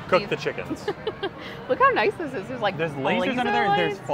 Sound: laughs

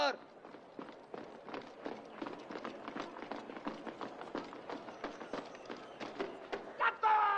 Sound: footsteps approaching

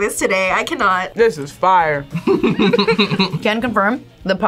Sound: both laugh

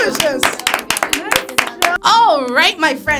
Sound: all clapping

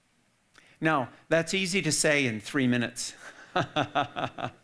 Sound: laughs

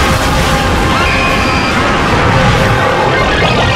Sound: retarded screaming; screaming

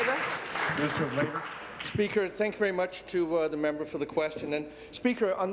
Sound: applause

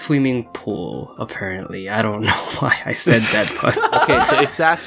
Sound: cute laugh

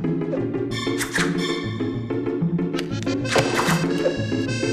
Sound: arrows thwap

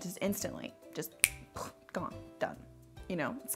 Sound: snaps fingers

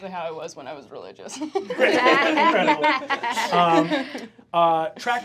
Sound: group laughs

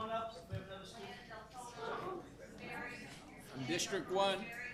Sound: group chatter

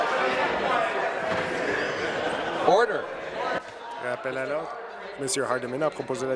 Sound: conversation din

